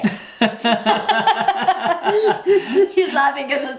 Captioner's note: laugh